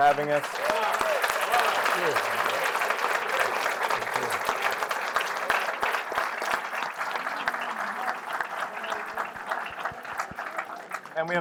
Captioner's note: applause